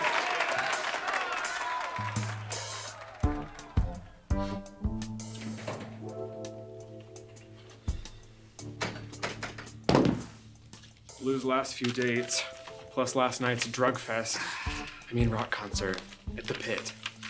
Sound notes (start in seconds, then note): 0.9 groovy upbeat music; 5.5 door clicks open; 5.5 groovy upbeat music; 8.8 door clicks shut